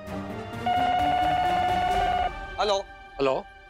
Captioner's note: phone ringing